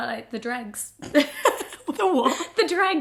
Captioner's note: laughs